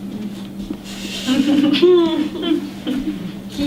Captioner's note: laughter